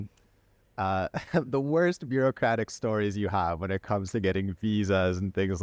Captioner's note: laughter